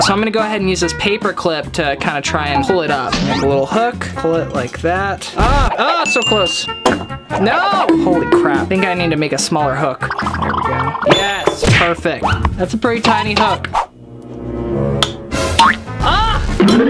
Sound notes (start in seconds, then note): 10.5 wobbling squawk; 11.0 bell rings; 13.9 swishing; 13.9 dramatic music